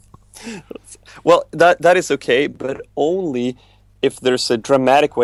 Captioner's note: laughs